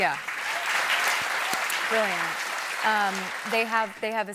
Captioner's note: applause